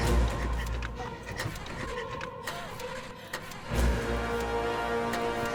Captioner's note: engine puttering